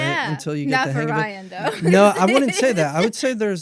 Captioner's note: laughs